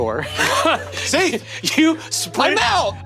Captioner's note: Brennan laughs